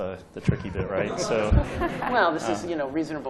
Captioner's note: laughter